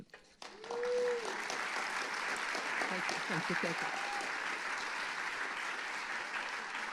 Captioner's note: applause